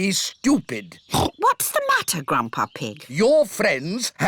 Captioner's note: oinks